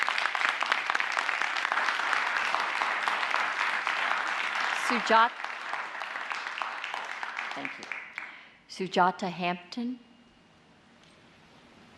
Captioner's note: applause